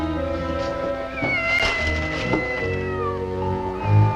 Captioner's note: meow